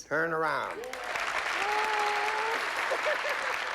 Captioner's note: moans, laughs